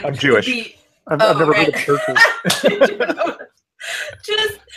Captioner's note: laughs